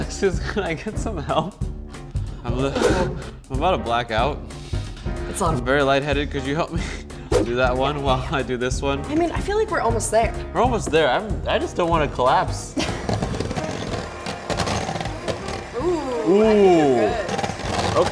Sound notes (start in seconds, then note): 12.7 laughs; 12.8 mixers whirring